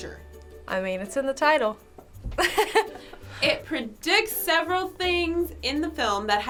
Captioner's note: laughs